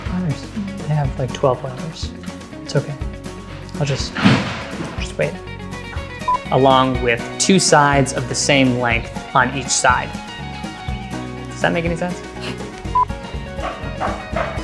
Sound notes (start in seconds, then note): 3.5 construction noise; 4.1 loud crash